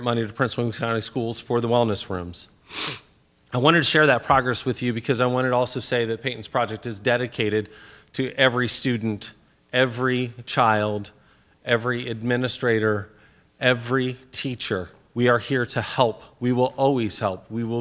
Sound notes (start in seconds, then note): 2.6 sniffs